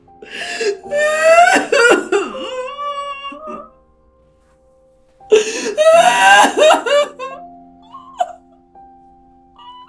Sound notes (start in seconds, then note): 0.5 crying; 5.3 crying